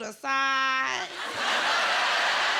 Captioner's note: laughter